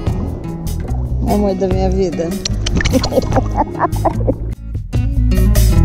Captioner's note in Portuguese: som de beijos e risada